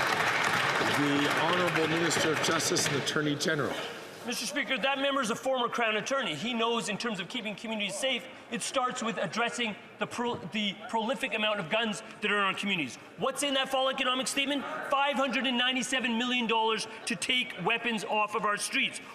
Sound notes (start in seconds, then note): 3.5 some Applause